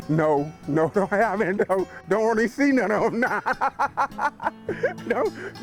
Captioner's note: laughs